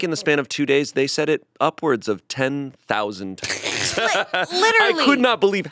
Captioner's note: laughs